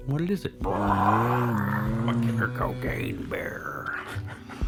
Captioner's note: grizzly bear roar